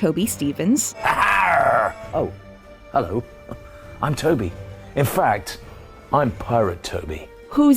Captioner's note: Toby Stephens doing a pirate voice; Toby Stephens in his normal voice